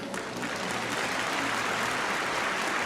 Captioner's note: audience claps